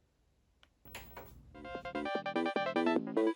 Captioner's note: TV turns on